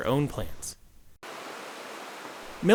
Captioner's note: water rushing